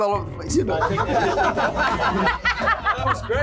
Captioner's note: laughter; voiceover